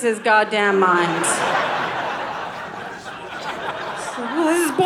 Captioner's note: audience laughing